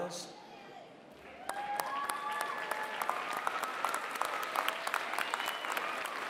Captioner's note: applause